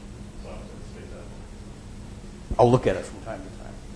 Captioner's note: man speaking in the background